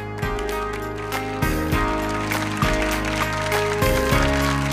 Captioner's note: applause